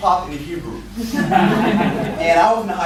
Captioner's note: laughter